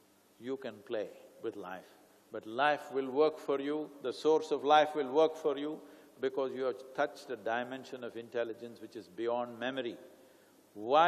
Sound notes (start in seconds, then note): none